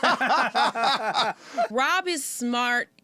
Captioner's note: laughter